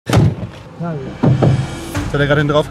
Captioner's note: knocking, exciting sounds